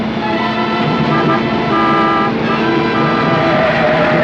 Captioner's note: honking